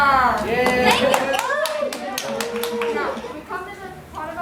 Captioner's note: cheers and Applause